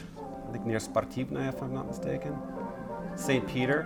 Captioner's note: speaking russian